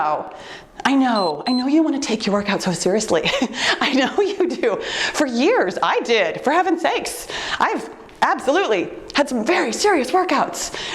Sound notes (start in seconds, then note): 1.1 timer beeps; 3.4 laughs